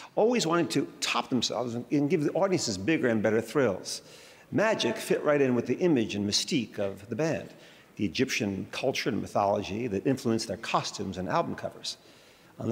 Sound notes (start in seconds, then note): none